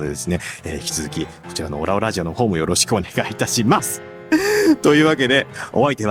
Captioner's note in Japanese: 笑い